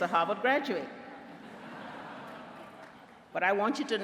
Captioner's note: laughter